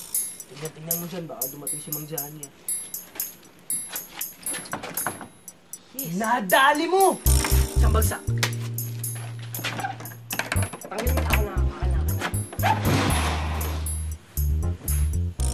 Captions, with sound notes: Be my lookout. Mr. Johhny might come. Gotcha! High five! Give it to me, Omeng. Let me. [door opens]